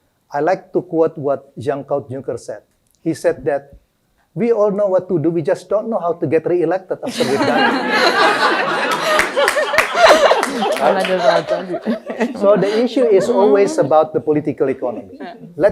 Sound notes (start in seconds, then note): 7.0 laughter; 8.7 applause